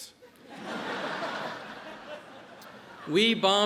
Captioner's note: audience laughs